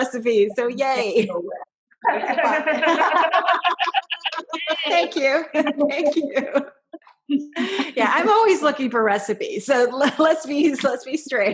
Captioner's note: laughter